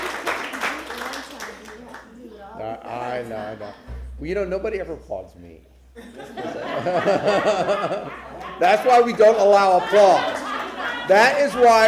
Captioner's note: applause